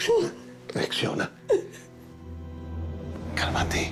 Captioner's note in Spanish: Sollozos